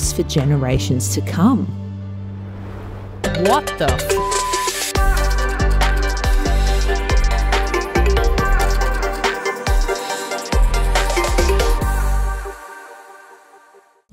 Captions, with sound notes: for generations to come? What The (beep)? (bright upbeat music)